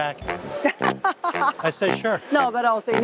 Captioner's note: laughs